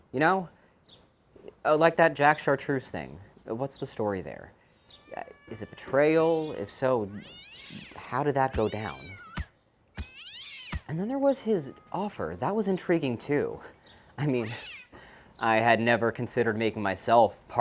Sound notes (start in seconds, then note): 8.9 cat hissing